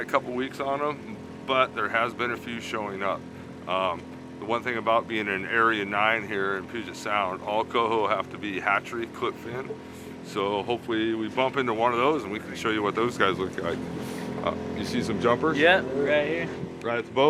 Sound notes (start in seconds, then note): none